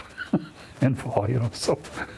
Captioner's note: laughing